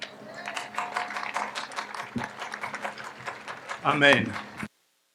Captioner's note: audience applauds